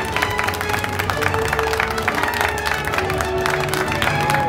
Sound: applause and upbeat music

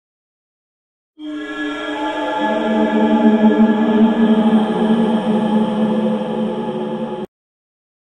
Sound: sound of space cave

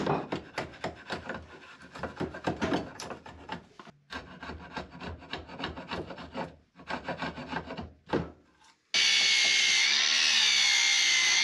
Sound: drilling

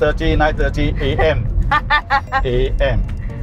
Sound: laughs

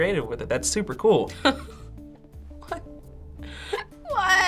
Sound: chuckling

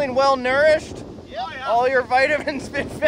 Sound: shouts

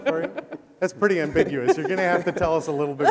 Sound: laughing

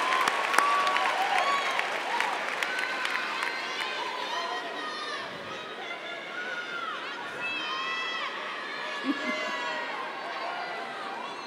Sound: applause

